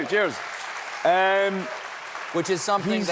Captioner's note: applause